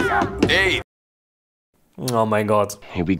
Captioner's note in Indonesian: Awkward silence